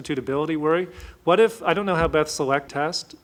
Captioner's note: audio jumps